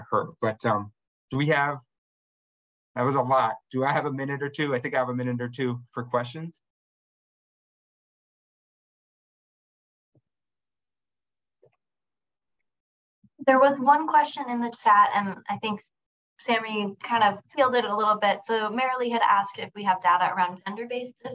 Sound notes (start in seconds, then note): 6.9 silence